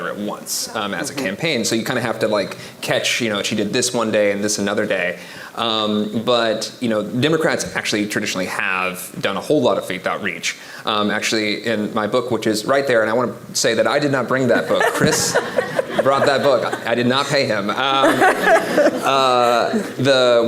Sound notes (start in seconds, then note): 14.5 audience laughing